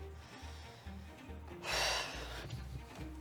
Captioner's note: deep breath